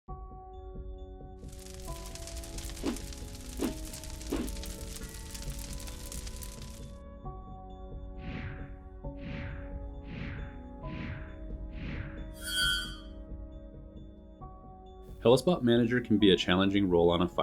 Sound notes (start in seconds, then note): 0.5 gentle music; 1.4 fire crackling